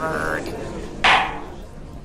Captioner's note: gavel clack